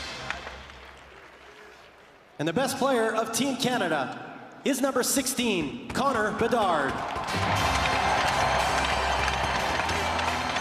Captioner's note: cheering and Applause